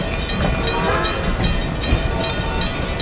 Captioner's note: NH I5 Whistle